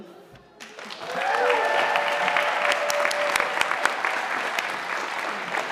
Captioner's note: audience applauding